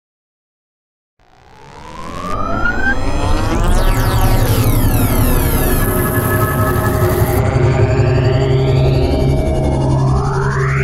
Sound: sound of morph

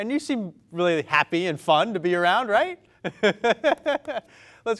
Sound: laughs

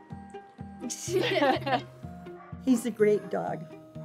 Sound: girls laughing

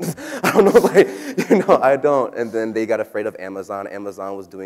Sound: laughs

